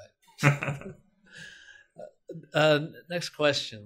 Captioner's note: laughing